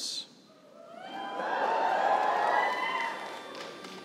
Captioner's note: cheering